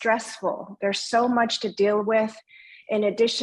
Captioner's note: speaking in foreign language